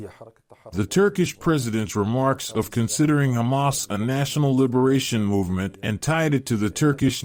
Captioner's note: Turkish